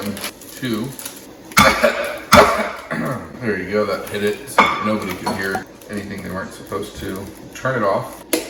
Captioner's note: coughs